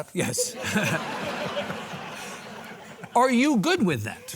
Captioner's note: audience laughing